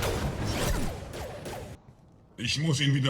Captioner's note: bang